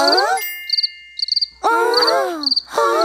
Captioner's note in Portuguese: Som de grilos